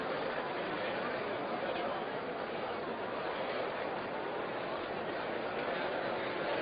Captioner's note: general chatter